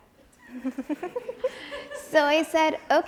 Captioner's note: audience chuckles